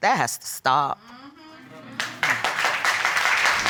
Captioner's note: crowd